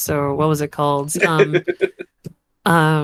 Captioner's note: laughs